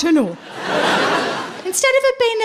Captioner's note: laughing